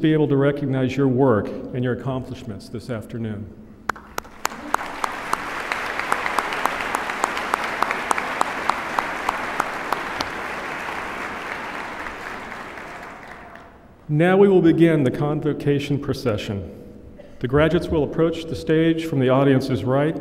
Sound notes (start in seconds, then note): 3.9 applause